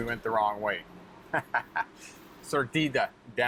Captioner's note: chuckles; speaking Spanish